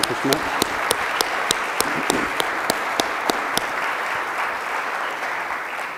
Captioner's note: audience applause